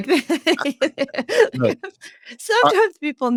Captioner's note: laughing